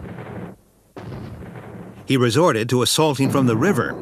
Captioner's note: booming